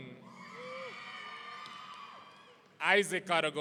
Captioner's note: audience cheering